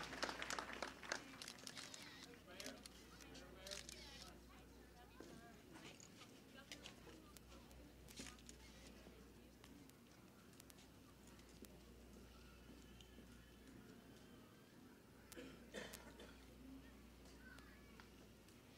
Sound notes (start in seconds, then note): 0.0 applause; 0.0 sounds of cameras and crowd noises